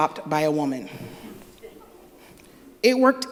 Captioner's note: laughter